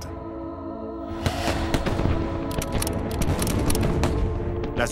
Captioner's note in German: Schüsse